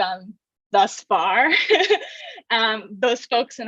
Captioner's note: laughs